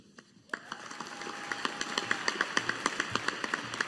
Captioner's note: audience applauding